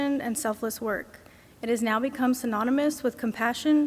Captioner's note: none